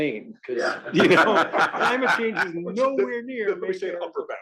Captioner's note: laugh